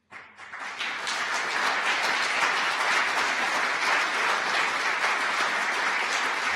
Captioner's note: audience applause